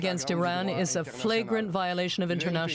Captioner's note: speaking French